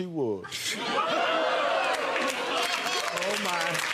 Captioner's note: audience laughing; audience clapping